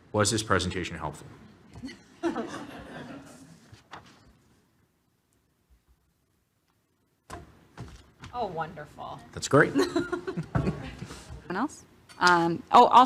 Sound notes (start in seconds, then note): 1.8 audience laughing